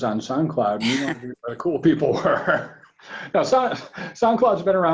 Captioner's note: laughs